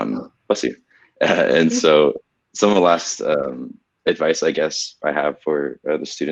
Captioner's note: laughs